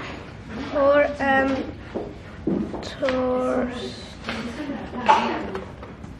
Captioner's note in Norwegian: Eleven leser høyt på engelsk